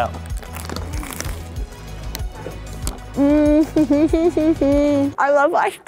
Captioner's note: crunching; grunting